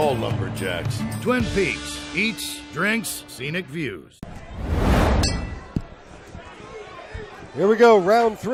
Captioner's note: bell